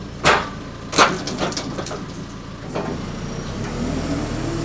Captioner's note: log rolling against metal; engine running loudly